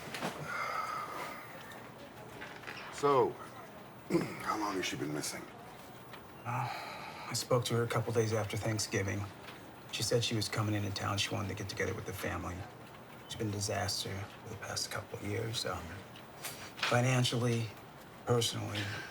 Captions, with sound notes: (Tom sighs) - So, (clears throat) how long has she been missing? - Uh, I spoke to her a couple days after Thanksgiving. She said she was coming into town. She wanted to get together with the family. It's been a disaster for the past couple of years, um, financially, personally.